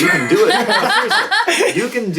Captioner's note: all laugh